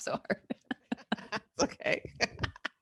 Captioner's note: both laugh